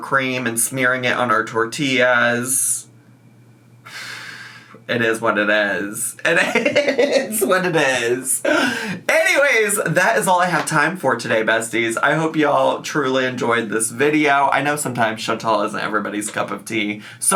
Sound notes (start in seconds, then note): 6.2 laughs